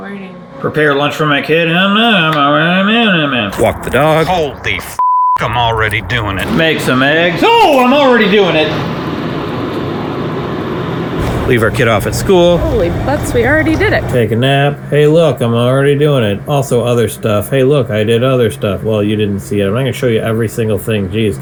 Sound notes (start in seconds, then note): 2.0 speaks in gibberish; 4.9 beep